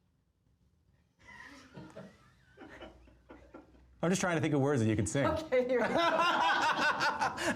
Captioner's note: laughter